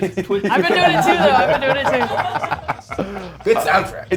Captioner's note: laugh